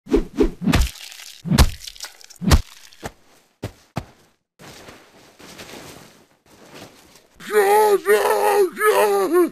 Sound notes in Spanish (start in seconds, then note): 0.0 golpes